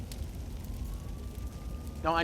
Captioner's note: siren approaching